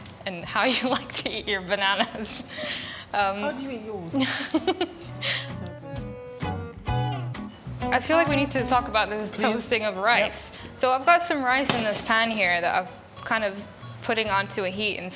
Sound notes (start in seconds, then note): 4.2 laughs; 4.9 cheerful music